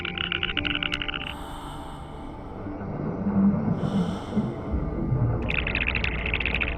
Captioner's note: creature chittering; Phil breathes heavily; creature chittering